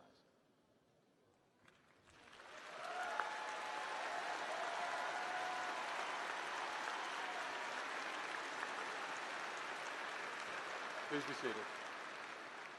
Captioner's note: applause